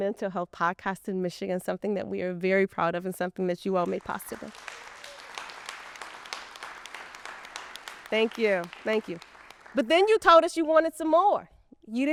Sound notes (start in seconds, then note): 3.8 people clapping